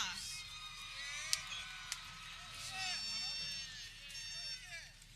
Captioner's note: people cheering